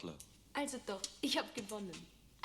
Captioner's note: speaking german